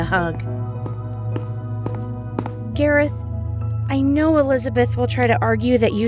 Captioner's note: whispers